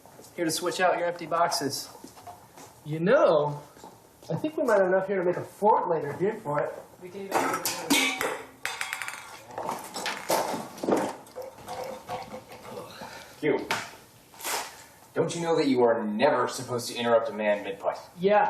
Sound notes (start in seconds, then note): 8.7 golf ball rolling; 11.4 rubbish clanking